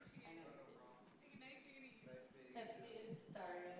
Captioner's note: crowd chattering